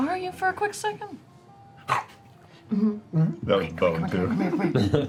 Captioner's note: swallowing